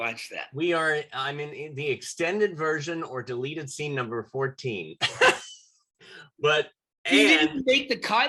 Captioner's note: laughter